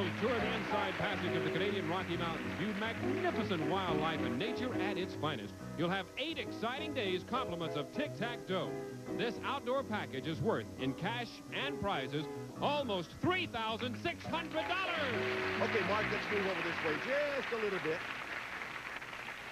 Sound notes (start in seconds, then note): 11.2 audience applauding